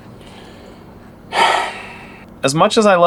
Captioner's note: big sigh